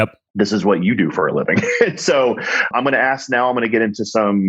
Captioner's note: laughs